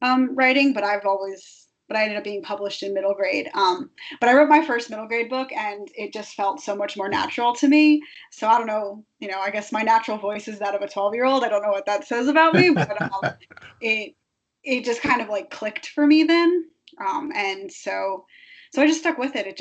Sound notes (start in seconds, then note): 12.5 laughing